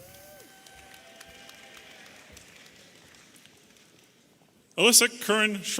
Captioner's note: audience applauding and cheering